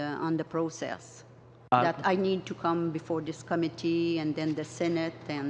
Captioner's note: speaking in french